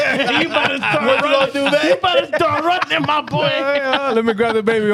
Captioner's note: laughing